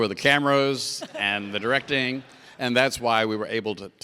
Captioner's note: audience laughs